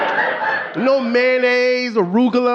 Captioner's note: audience laughing